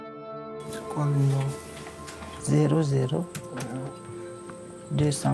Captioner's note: speaking in French